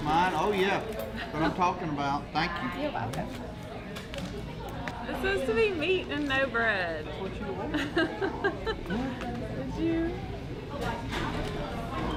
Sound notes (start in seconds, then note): 0.0 laughter; 9.1 laughter